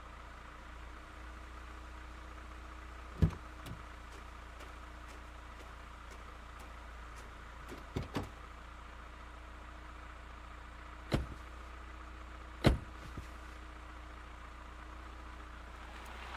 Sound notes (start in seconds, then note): 3.2 footsteps thumping; 3.5 doors rattling; 11.0 vehicle droning; 11.1 doors thumping